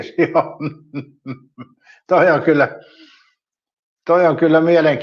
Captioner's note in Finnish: naurua